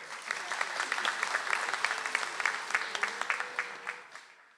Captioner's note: audience applauds